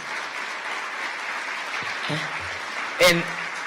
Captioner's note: audience applause